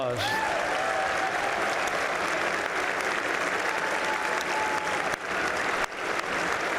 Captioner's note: applause